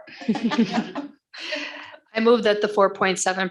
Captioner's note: laughing